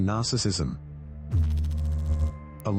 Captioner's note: electrical noise